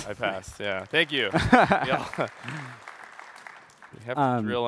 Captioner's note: applause